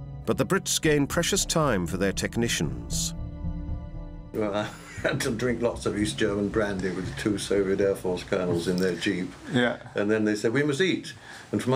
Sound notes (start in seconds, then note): 4.3 laughing